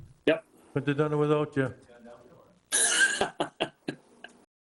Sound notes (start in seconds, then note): 2.6 man speaking off mic; 2.8 laughing